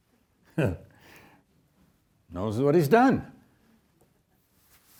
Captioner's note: chuckles